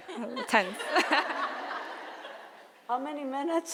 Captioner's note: audience laughing